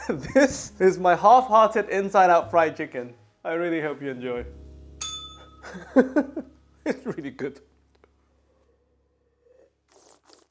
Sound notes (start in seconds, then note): 5.0 bell rings; 6.9 laughs